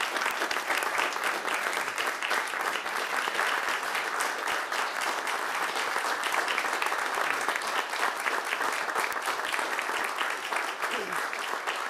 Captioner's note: applause